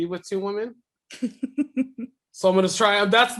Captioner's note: laughing